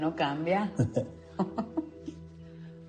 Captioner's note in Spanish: Risas